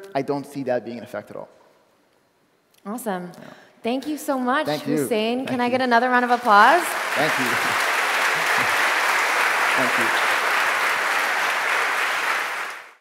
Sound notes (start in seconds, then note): 6.0 applause